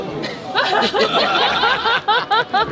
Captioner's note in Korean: 일동 웃음